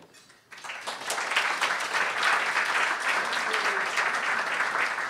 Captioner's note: applause